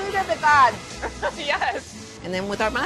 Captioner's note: laughs